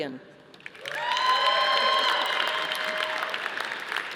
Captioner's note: audience applauding